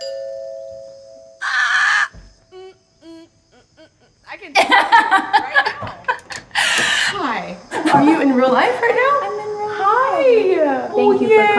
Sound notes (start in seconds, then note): 0.0 doorbell ringing; 3.0 humming; 4.3 laughing